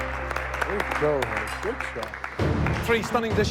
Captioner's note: applause